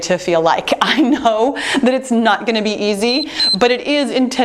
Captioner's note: timer beeps